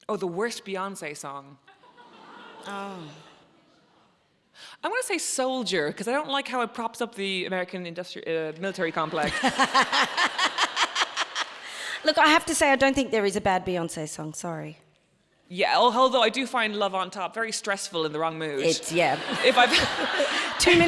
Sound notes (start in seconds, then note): 1.8 audience chuckles; 9.0 audience laughs; 18.6 audience laughs